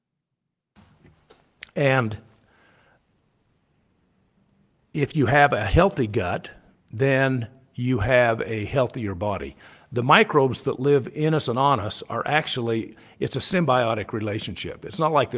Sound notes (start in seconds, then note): none